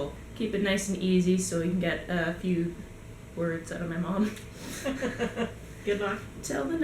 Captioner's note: laughs from both